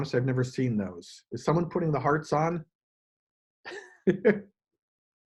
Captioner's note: chuckles